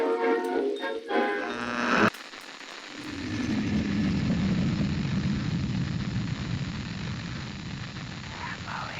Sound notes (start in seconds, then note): 1.4 radio static